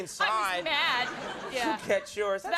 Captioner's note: crowd laughs